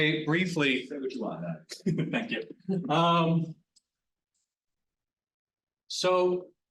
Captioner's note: laughs